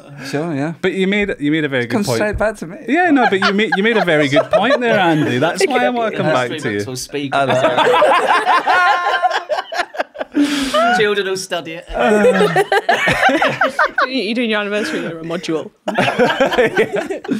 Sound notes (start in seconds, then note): 7.4 laughter of eventually we'll get into the podcast